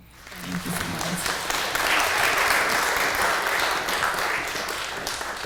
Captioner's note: applause